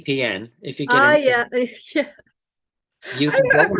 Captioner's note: laughing